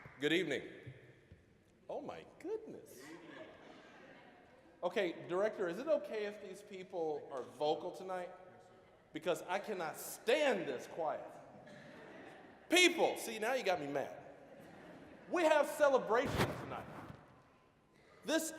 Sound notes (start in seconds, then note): 3.2 scattered laughing; 11.6 audience chuckling; 14.4 audience laughing